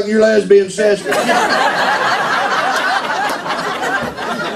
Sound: laughter

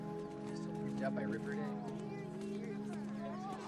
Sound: STUDENTS CHATTERlNG

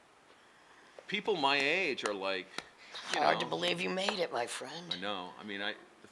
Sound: slow clapping

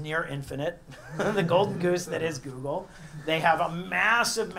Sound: laugh

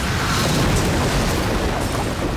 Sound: explosion

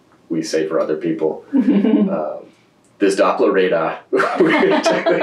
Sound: laughter

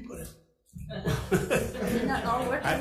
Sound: assembly laughs

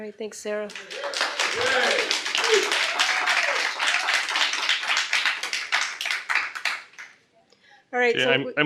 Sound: cheers and applause

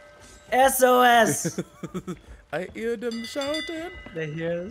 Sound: laugh

